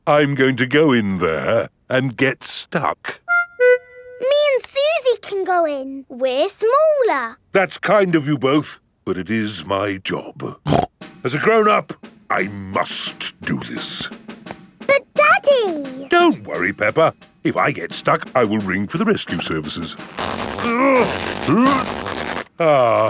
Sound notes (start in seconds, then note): 10.6 snorts; 20.8 grunting